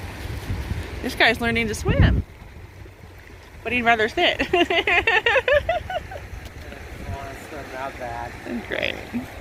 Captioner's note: laughs